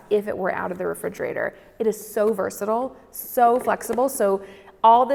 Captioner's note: none